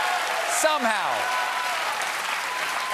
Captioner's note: cheers and applause